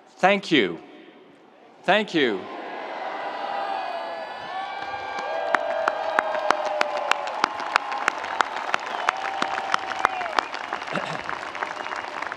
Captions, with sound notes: Thank you, thank you. (audience cheering) (audience applauding)